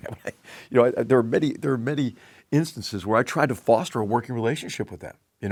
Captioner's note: laugh